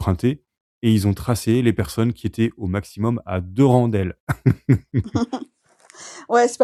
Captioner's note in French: rires